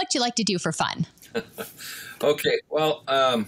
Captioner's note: chuckling